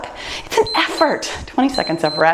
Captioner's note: timer beeps